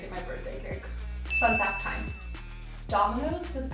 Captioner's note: ding